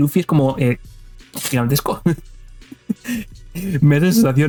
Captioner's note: laughs